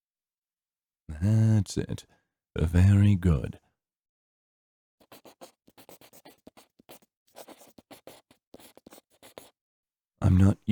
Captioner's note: pencil scribbling